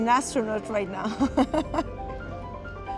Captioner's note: laughs